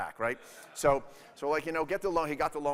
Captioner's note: audience laughing